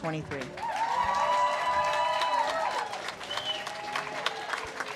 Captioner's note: audience cheers and claps